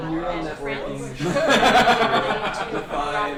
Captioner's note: laughter